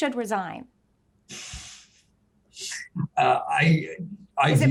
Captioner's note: chuckles